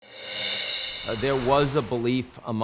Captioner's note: graphic whooshing